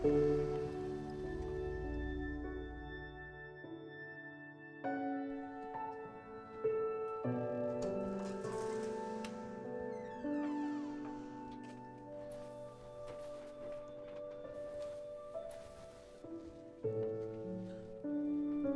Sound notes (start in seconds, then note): 4.6 gentle orchestral music continues; 7.7 door creaking; 14.2 gentle orchestral music continues